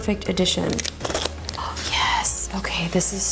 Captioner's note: knife tip rumbles